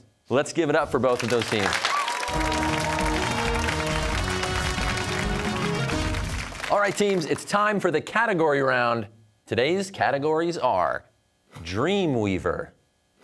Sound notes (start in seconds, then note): 1.2 cheers and applause